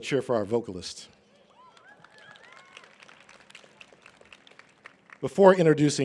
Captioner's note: cheering and applause